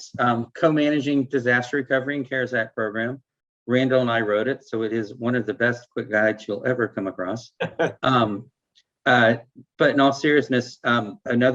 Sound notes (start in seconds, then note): 7.6 laughing